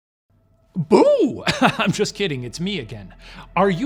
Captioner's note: giggling